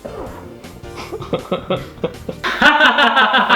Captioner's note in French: rires hors caméra; rire flippant x3